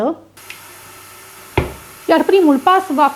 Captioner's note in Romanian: sunetul mixerului